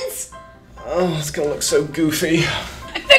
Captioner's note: sighs